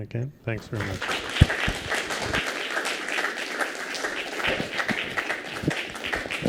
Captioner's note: applause